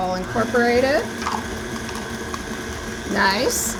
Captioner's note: mixer whirring